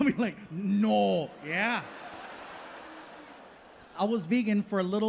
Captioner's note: audience laughing